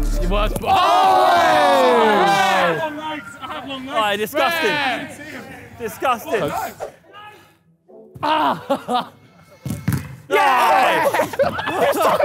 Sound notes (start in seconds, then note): 1.2 group In Unison; 10.1 group In Unison; 10.8 laughs